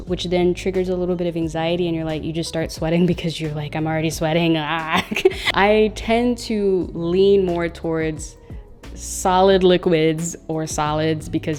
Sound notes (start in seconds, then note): 4.9 laughs